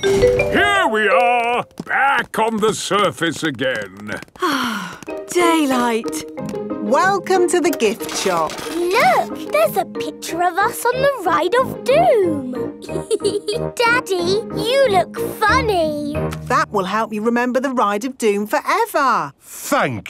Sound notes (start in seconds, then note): 4.3 sighs